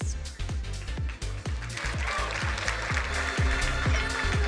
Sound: upbeat music; crowd applauding

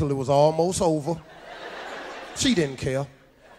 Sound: audience laughs

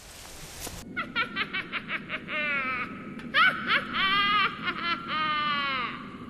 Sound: witch cackles

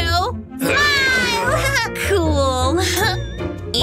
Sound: grumbles

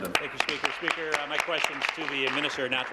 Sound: applause

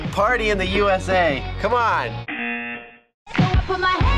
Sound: buzzer

